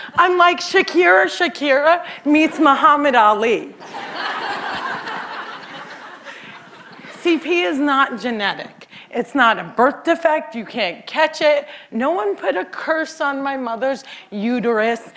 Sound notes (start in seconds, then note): 3.8 laughter